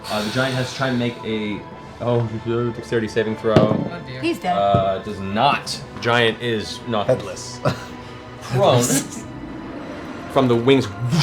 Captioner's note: whoosh